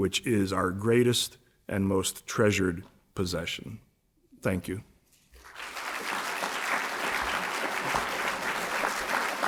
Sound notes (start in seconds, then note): 5.3 applause